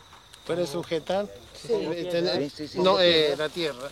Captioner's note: Spanish spoken audio